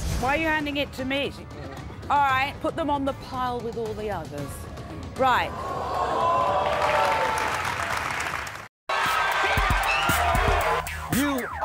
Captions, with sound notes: - Why are you handing it to me? Alright, put them on the pile with all the others. Right. (audience gasps)